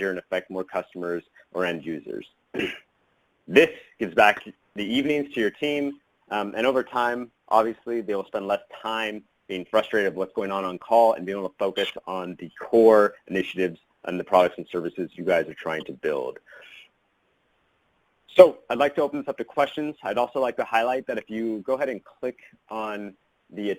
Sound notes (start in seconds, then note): 2.5 clears throat